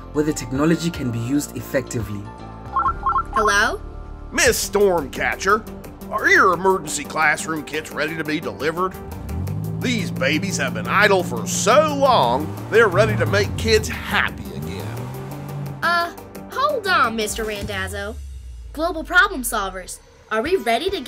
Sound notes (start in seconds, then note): 2.7 phone rings